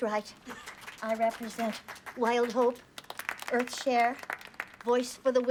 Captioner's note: clapping